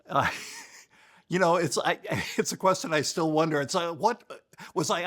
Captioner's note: laughs